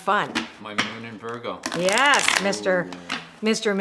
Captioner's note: cards shuffle